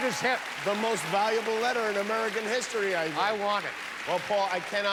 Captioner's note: cheers and applause